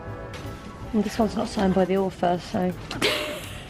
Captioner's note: breathy laughs